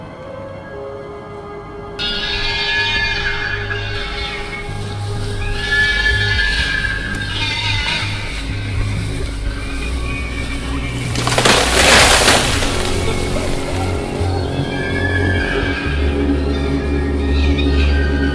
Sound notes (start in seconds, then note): 2.8 terrifying creature shrieks; 10.8 sound of a large tree falling; 12.9 several creature shrieks